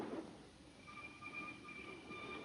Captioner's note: golpes de arma; música tensa